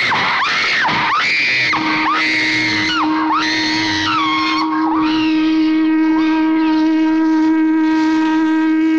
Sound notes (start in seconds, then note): 0.0 screaming; 3.7 ship horn blares